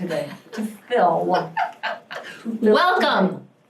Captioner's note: laughing